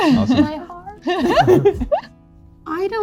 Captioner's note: all giggling